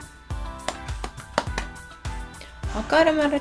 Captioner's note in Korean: 짝짝짝짝짝